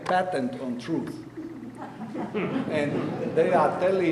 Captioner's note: audience laughing